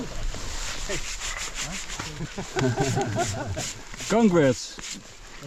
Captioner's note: brush swooshing